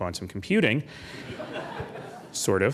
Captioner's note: laughing